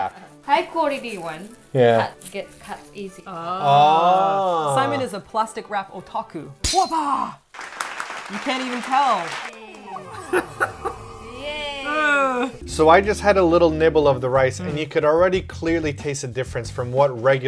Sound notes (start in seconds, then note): 6.6 breaking glass sound; 7.5 clapping sound effect; 9.7 laugher